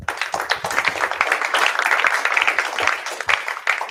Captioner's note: applause